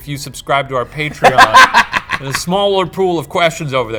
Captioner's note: laughs